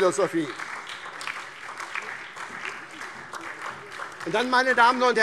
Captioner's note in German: Beifall SPD